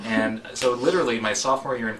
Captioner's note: laugh